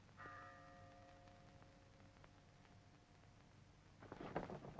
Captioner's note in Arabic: رنين الجرس